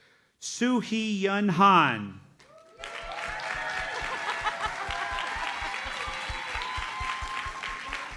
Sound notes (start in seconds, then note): 2.4 audience cheers and applauds